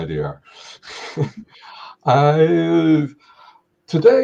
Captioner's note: chuckling